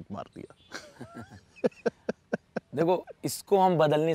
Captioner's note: Laughing